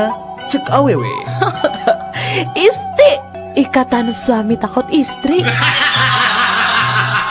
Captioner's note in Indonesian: tertawa